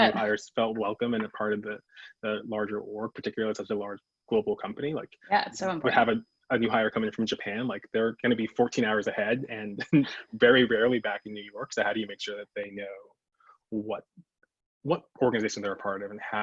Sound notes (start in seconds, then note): 0.0 chuckles; 8.6 laughs